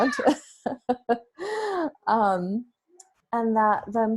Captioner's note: laughs